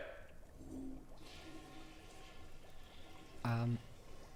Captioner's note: toilet flushing